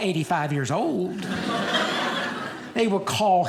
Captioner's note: audience laughing